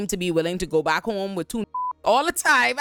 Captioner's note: beep